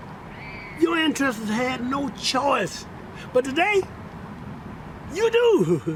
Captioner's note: chuckles